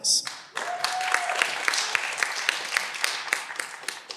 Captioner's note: cheering